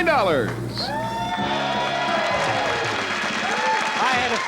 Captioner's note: cheering